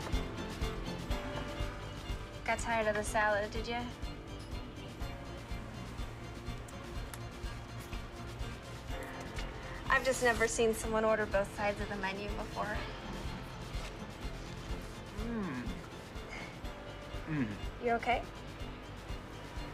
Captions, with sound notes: - Got tired of the salad, did you? (upbeat music) I've just never seen someone order both sides of the menu before. (upbeat music) (Mark groans) You okay?